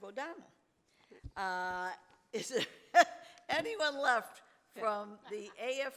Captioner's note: laughs